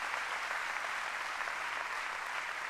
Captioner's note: applause